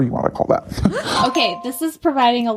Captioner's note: bingbong